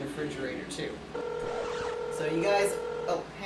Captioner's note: phone ringing